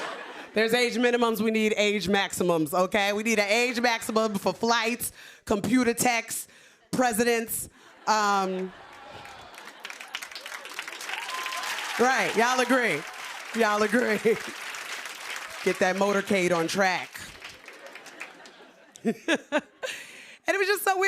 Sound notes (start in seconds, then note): 9.4 cheers and applause; 17.6 chuckles; 17.6 laughter